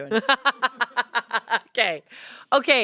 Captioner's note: laughs